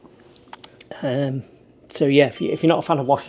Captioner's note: bell dings